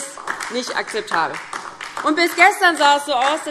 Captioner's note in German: Beifall DIE LINKE